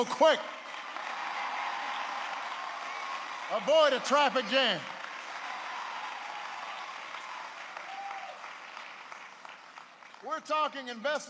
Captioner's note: applause